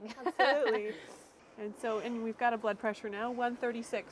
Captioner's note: laughing